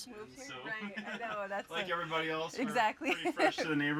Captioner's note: laughing